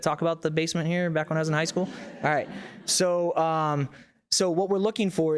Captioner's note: audience laughs